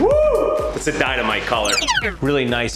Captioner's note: screaming; rewinding tape sound